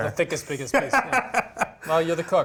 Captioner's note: laughs